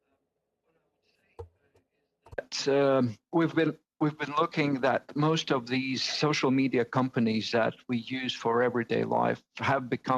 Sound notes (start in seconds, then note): 2.0 speaking in French